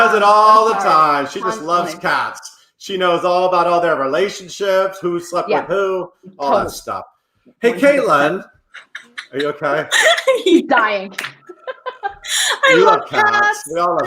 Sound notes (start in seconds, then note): 8.7 laughs